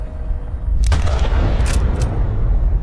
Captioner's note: whirring quiets; gunshot